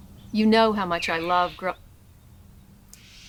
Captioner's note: loud bird call